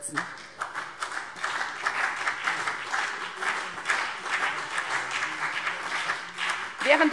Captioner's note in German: Beifall CDU und BÜNDNIS 90/DIE GRÜNEN